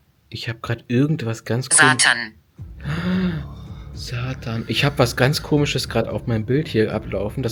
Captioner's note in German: japst